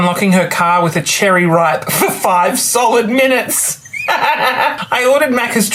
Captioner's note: laughs